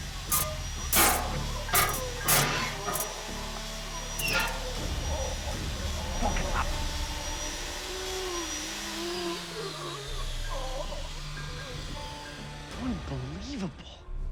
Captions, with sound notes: [grinding sounds] [whirring stops] - Unbelievable.